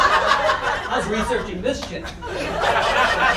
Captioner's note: audience laughter